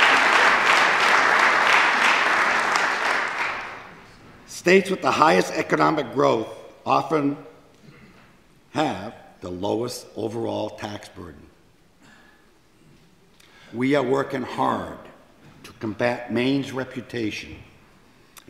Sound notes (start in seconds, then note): 2.8 applause